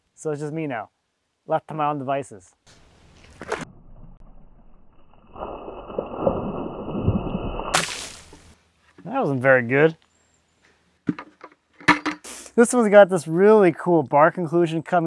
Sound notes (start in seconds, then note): 6.3 water splashing